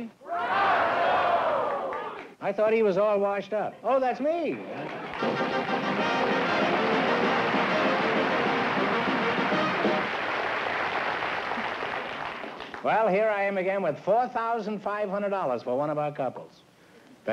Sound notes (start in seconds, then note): 5.0 upbeat music; 6.1 applause